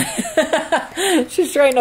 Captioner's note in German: Lacht